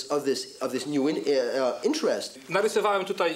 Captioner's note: speaking Polish